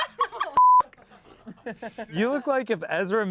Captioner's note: everyone laughs; beep